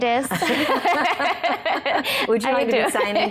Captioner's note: both laughing